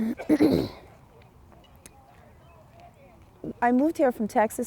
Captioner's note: clears throat